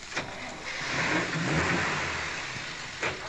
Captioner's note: engine revs